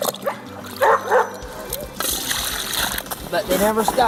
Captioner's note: dogs bark